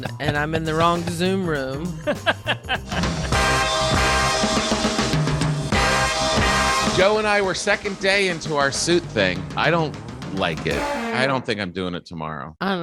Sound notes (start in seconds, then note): 1.9 upbeat music continues; 1.9 laughing